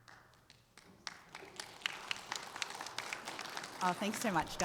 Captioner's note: audience applauding